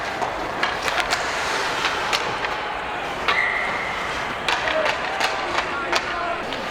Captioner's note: hockey puck clanking; whistle blows